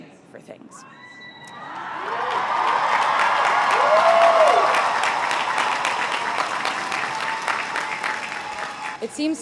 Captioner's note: crowd cheering and applauding